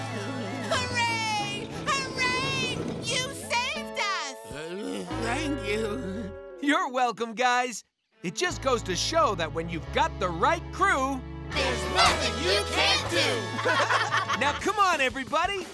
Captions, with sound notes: Hooray! You saved us! [groaning] Thank you. You're welcome, guys. It just goes to show that when you've got the right crew, there's nothing you can't do! [laughing] Now, come on, everybody!